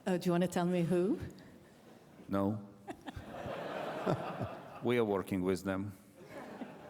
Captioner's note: laughter